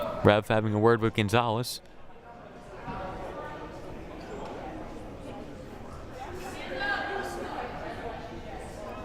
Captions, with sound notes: Ref having a word with Gonzalez. (crowd murmuring)